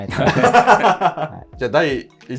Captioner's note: laughing